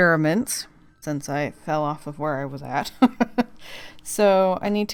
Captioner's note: laughs